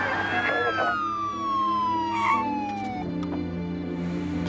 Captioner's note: siren wails; tense music